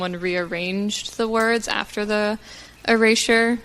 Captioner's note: none